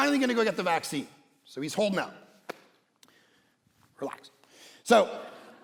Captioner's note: congregation laughing